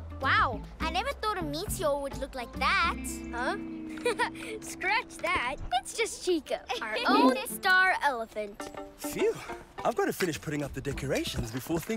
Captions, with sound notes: Wow! I never thought a meteor would look like that! Huh? Ha, ha! Scratch that! It's just Chiko... - (Laughs) - ..our own star elephant! Phew! I must finish putting up the decorations